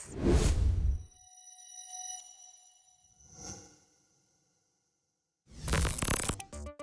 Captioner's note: whoosh; futuristic sound; static